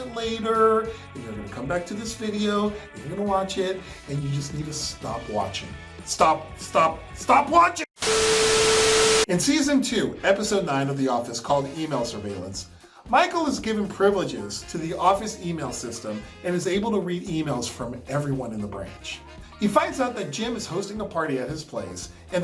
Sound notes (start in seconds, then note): 8.0 Static